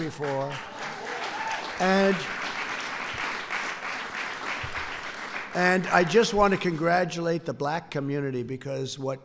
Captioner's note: applause